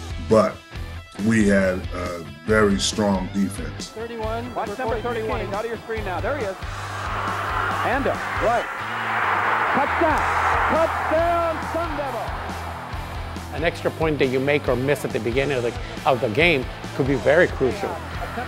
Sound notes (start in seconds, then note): 7.1 crowd cheers; 10.5 audience cheering